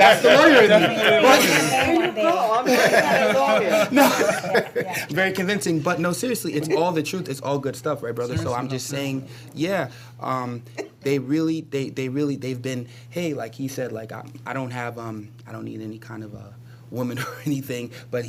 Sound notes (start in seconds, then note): 3.1 laughter